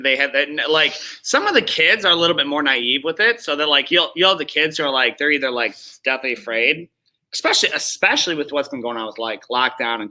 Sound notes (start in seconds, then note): none